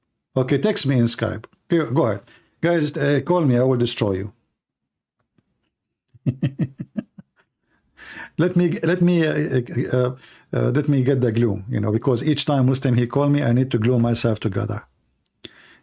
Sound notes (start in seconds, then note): 6.1 Ketawa